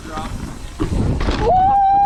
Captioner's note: shouting; wheels whooshing; shouting